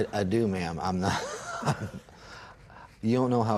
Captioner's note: sighs